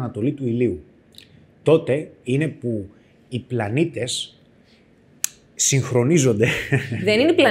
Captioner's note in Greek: γέλια